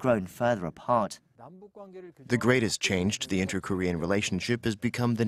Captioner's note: Korean